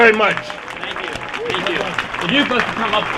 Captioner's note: applause